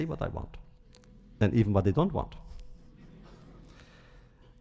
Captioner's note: laughter